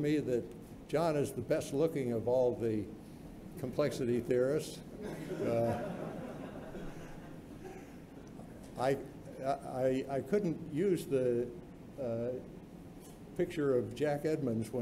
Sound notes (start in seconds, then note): 5.0 laughter